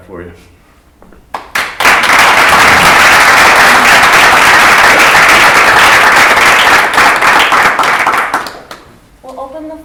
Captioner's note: applause